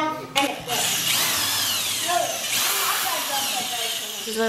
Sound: drill whirs

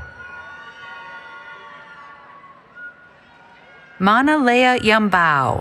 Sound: cheering

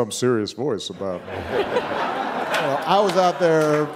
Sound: audience laughing

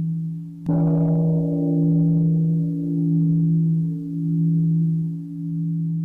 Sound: gong

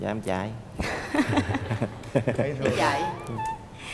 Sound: laughter

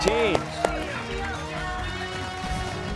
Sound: cheers and applause

